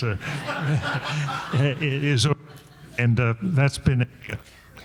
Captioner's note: audience laughing